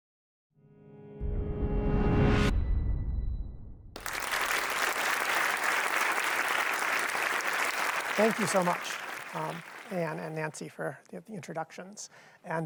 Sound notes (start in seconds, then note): 0.7 soft tense music; 3.9 audience applauds